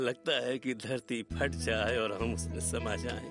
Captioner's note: none